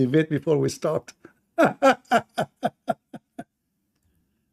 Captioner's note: Ketawa